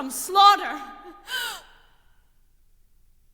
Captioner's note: gasps